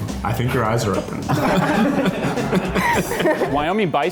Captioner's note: all laugh